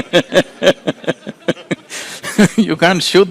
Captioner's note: laughter